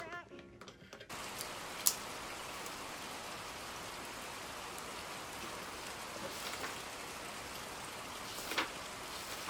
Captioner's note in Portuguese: sonzinho de chuva